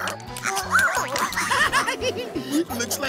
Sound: giggling

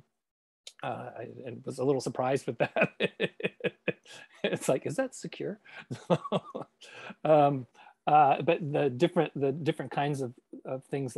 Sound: laughs

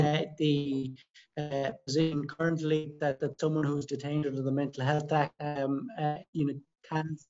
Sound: sound distortion

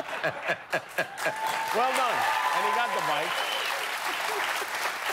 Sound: laughter

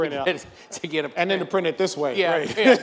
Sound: laughs

